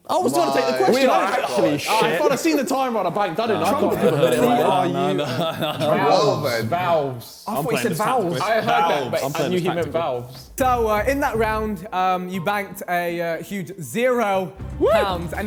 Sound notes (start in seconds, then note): 3.5 men chattering